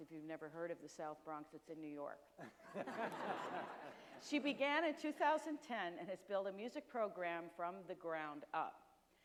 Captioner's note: audience and panel members laugh